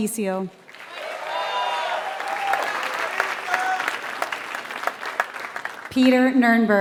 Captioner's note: applause